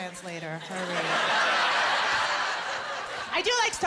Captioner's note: laughter